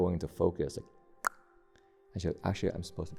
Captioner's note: clicks tongue